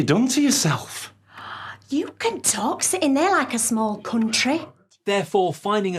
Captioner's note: gasp